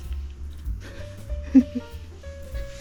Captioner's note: giggling